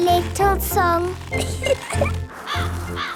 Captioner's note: birds cawing; giggling